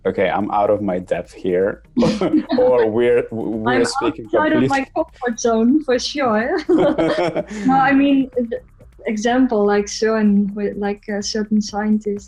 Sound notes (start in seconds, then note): 6.5 laughter